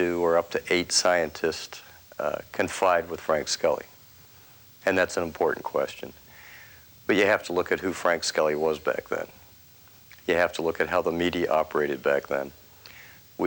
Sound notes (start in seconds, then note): none